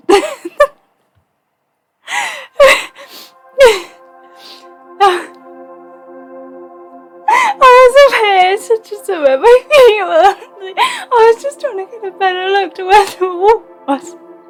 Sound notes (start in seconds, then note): 0.0 laughs; 7.6 laughing